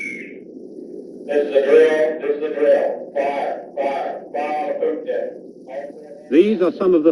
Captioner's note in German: Pfeife